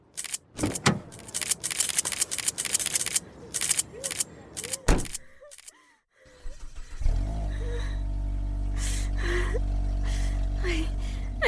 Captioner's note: car doors open and close; car starts